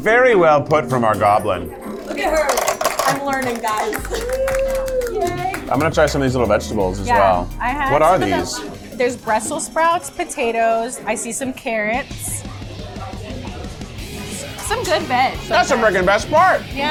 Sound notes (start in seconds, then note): 4.2 group cheers and applauds; 12.1 rock music